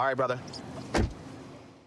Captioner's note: door shuts